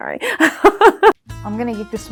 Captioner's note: laughs